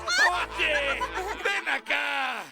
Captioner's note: laughter